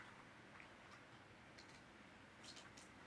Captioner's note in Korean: 뽀시락 뽀시락